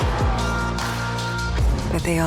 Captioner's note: sirens blaring